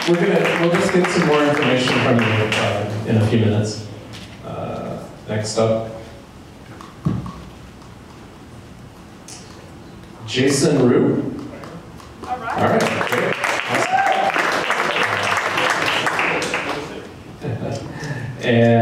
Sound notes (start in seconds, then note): 13.9 applause